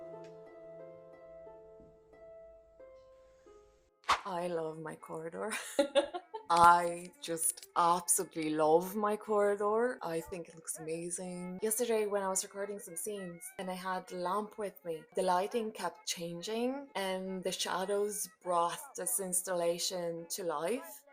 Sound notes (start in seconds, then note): 5.6 laughs